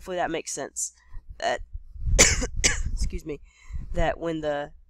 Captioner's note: cough